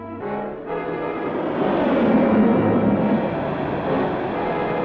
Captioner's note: dramatic music; engine revving